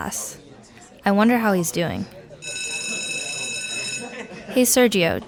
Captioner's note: school bell rings